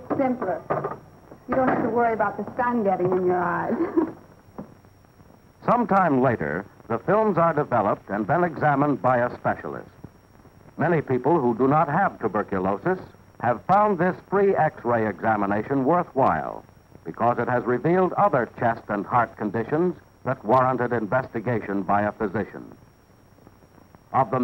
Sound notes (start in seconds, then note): 3.6 giggles